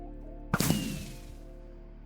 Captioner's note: firework goes off